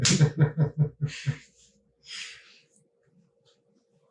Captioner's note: laughing